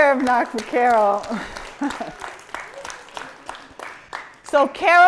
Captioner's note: applause